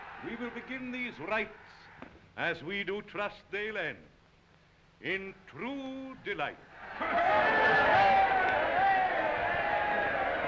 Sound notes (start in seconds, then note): 0.0 crowd cheering; 6.7 crowd cheering